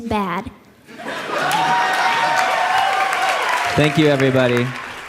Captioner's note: cheers